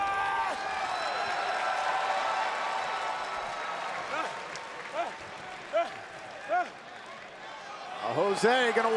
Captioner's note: crowd cheering